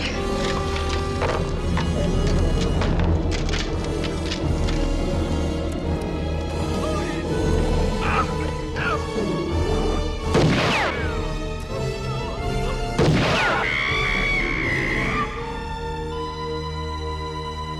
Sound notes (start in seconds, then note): 0.3 tense music grows; 1.3 shells clattering; 6.7 bear growling; 8.0 Pa Weaver yelling; 10.4 gunshot blasts; 13.0 shot blasts; 13.6 Ma Weaver screaming